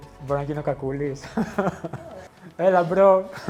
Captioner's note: laughs